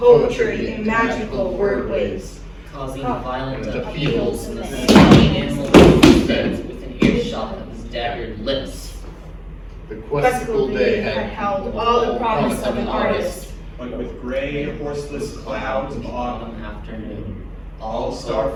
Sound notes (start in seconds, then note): 0.3 in Unison; 4.7 stomping